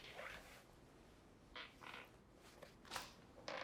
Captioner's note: chair squeaks